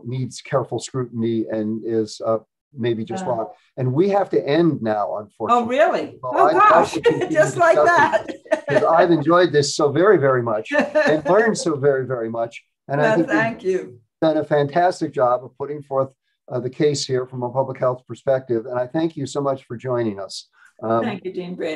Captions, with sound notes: needs careful scrutiny and is maybe just wrong. And we have to end now, unfortunately. - Oh really? Oh gosh. - Well, I'd love- - Just like that? (laughs) - to continue discussing this, 'cause I've enjoyed this so very, very much and learned so very, very much, and I think you- - Well, thank you. - Have done a fantastic job putting forth the case here from a public health perspective, and I thank you so much for joining us. - Thank you, Dean Brady.